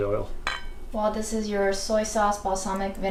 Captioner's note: plate clinging